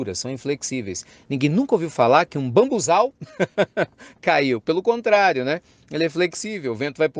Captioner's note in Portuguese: risos